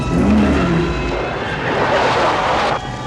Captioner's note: engine revving